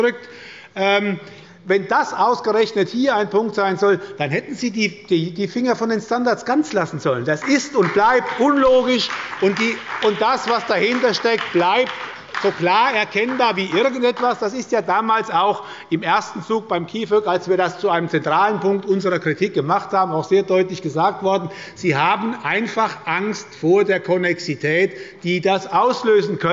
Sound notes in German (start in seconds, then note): 7.4 Beifall bei Abgeordneten der SPD